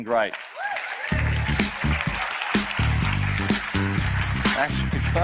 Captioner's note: audience applauds; upbeat music